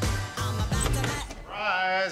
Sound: door opens

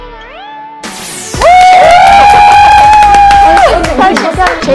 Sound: cheering / Shouting

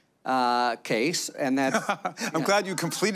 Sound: laughter

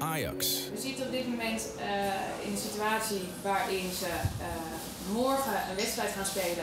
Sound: speaks in foreign language

